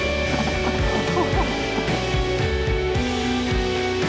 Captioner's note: laughing